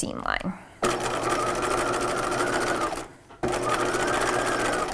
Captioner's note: machine whirring